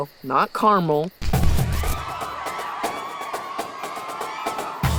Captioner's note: crowd cheers